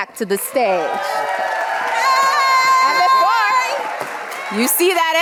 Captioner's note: audience cheering